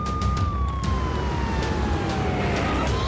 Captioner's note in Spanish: sonido de sirenas